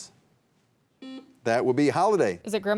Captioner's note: buzzer buzzing